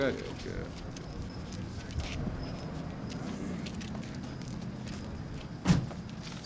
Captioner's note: street noise